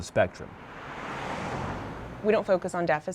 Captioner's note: car passing